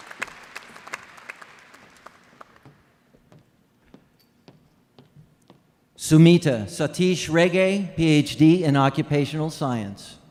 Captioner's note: applause